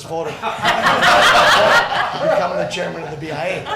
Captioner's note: crowd laughing